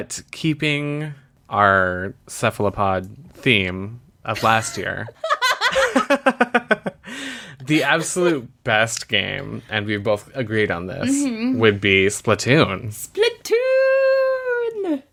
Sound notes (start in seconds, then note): 4.4 laughs